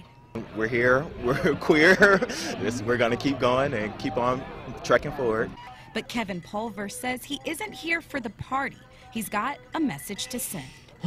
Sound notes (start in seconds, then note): 5.4 voice-over